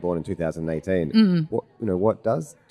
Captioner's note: hums in recognition